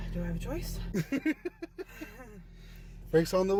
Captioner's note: both laughing